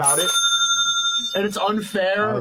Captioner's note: bell ringing